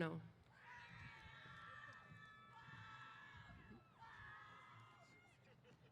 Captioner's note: cheers